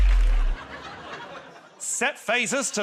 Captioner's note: suspenseful sting plays; laughter